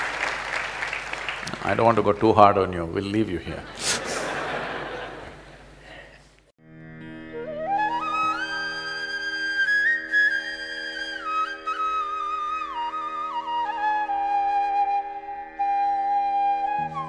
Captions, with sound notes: I don’t want to go too hard on you, we’ll leave you here (Laughs) (Laughter).